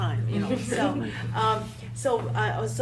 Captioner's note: all laughing